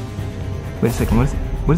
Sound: car engine revs

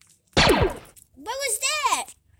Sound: blaster Fire

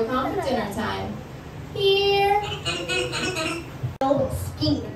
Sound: indistinct bird sound

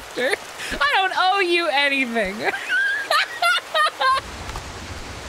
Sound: laughter

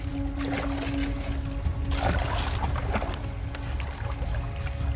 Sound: paddling through water

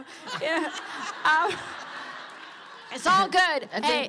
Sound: laughter

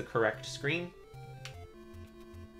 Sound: D-Pad clicks

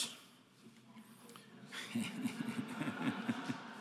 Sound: laughs

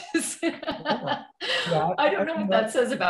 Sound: laughs

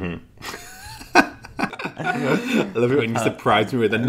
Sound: laughing

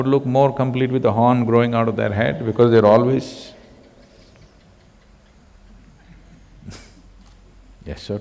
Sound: laughs

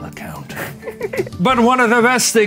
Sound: laughs

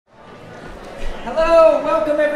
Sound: audience chattering

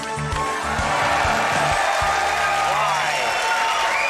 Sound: audience applauding; audience laughing; audience cheering and applauding

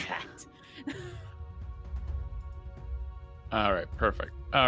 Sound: players laughing

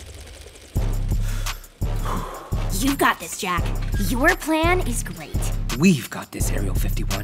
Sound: Jack exhales deeply

